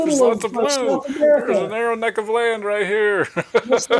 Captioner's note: chuckling